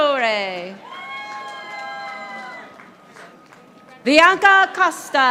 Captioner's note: audience applauding